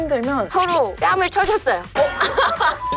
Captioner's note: slapping